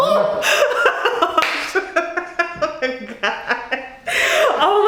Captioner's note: laughing